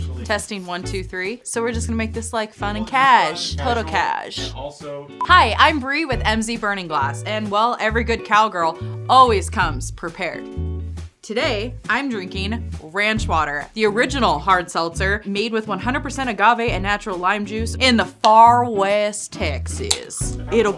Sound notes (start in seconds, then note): 0.0 jazzy acoustic guitar music; 5.2 tone beeps